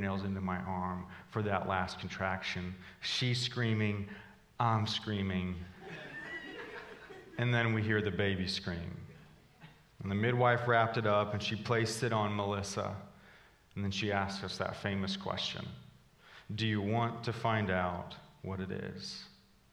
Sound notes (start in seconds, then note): 5.7 congregation laughing